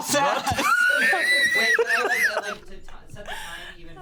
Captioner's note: laughs